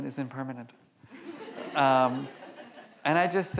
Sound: audience laughs

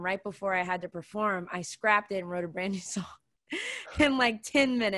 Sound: laughing

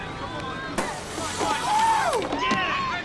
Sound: whooping

